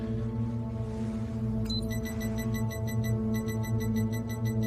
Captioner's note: beeping